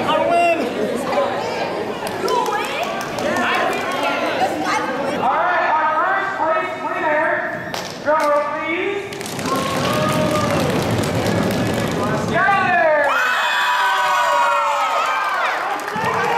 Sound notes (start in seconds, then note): 9.1 audience Stomps; 13.3 audience Cheers